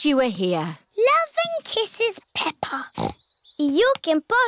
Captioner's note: snorts